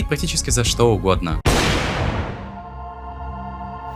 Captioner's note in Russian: комичный звук выстрела